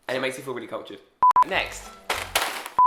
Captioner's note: beeps